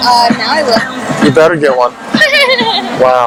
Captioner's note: laughs